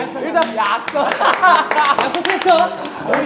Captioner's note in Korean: 웃음소리